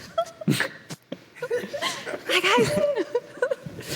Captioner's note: giggling